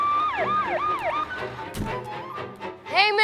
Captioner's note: siren